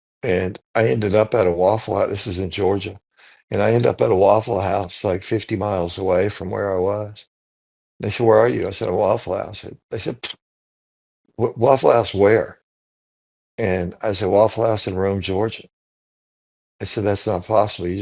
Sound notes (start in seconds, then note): 10.6 scoffs